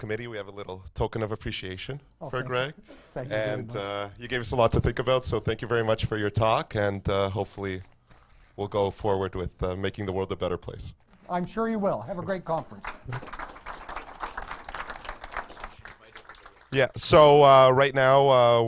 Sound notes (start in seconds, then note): 12.7 audience applause